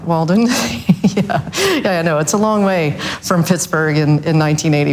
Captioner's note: laughs softly